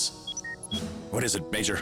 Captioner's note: communicator beeps